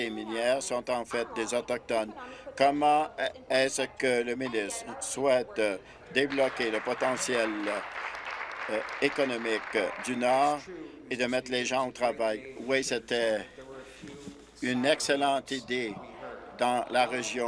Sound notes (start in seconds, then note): 9.4 applause